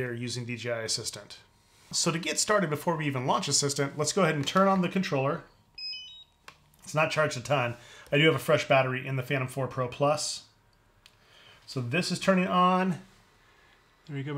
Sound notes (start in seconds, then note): 5.8 controller beeps